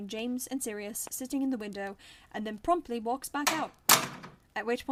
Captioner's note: door opens and closes